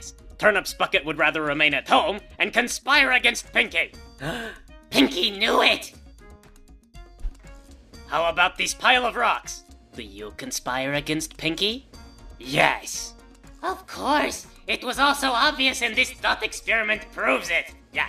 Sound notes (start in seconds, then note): 4.2 gasp!